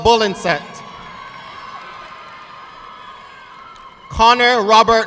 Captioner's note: audience clapping